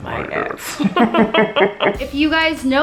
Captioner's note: laughs demonically